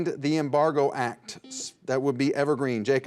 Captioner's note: buzzer dings